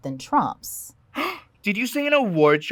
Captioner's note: audible gasp